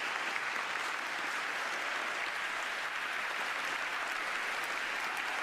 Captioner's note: applause